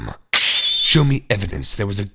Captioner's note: snap!